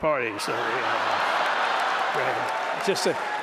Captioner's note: laughter